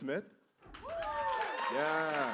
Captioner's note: cheers and applause